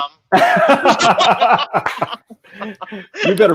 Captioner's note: laughing